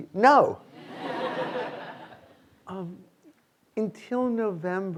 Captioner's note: students laughing